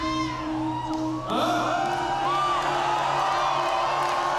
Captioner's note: audience cheering